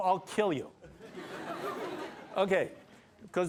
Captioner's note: laughter